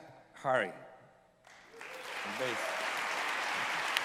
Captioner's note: applause